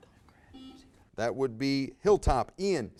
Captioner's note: buzzer buzzes